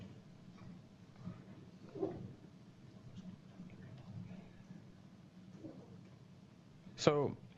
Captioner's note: pause